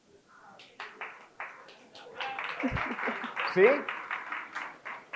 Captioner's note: crowd claps